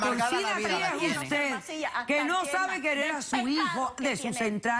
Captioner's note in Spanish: Hablan al unísono